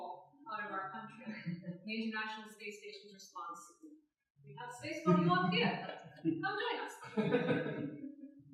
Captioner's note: laughter